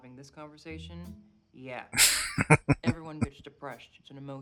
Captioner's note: chuckling